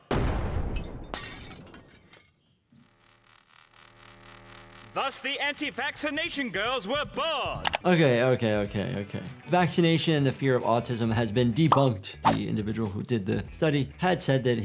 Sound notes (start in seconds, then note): 0.0 concoction explodes; 0.7 glass shatters; 3.0 electricity zapping